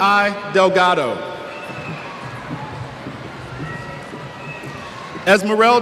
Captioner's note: cheers